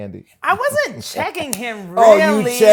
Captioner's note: laughs